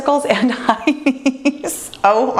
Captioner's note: laughs